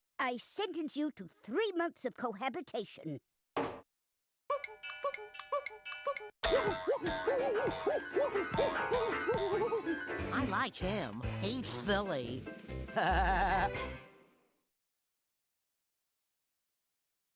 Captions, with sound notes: I SENTENCE YOU TO 3 MONTHS OF COHABITATION. WHOO-HOO! WHOO-HOO! WHOO-HOO! WHOO-HOO! I LIKE HIM. HE'S SILLY. [laughing]